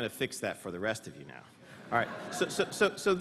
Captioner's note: laughter